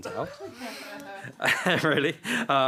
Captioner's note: chuckling